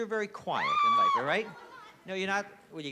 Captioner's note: screams